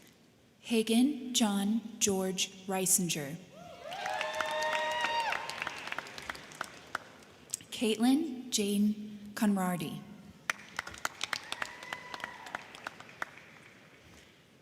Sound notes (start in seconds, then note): 3.6 crowd cheering; 3.8 crowd clapping; 10.4 crowd clapping; 10.8 crowd cheering